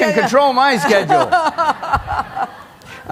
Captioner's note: laughter